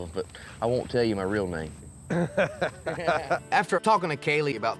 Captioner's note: laughter